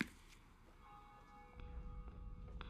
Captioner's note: church bell ringing